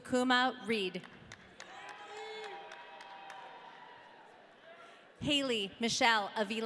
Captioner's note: audience cheering